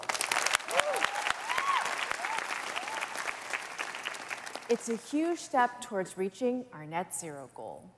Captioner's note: applause